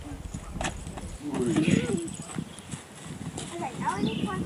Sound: laughs

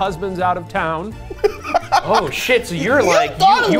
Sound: laughs

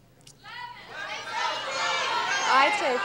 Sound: audience yelling

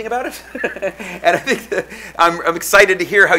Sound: laughing

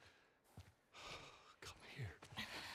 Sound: sigh

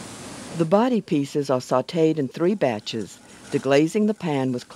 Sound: voiceover

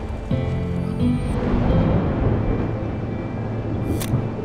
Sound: thunder rumbling; camera shutter clicking

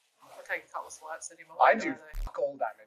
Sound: mumbling words

